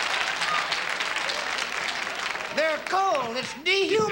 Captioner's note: laughing and clapping